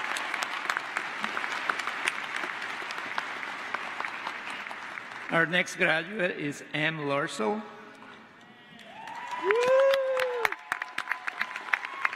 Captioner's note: applause